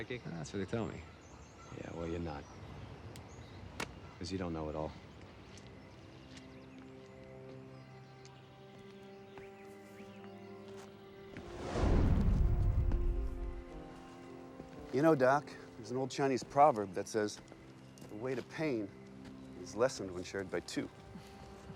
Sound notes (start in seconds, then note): 2.8 bird chirp; 9.3 footstep